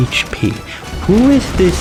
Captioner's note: inhales Oxygen